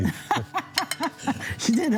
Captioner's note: Lidia laughs